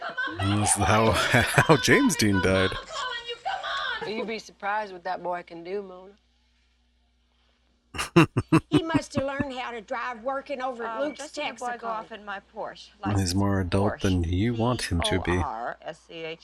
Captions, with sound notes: Well, that was how James Dean died. [Chuckling] He's more adult than you want him to be.